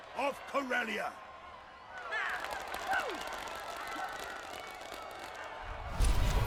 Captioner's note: cheers and applause